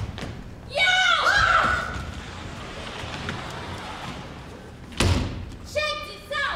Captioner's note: activist screams